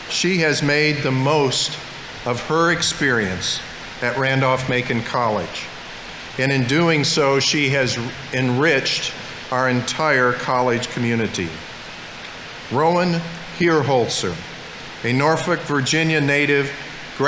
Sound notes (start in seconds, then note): none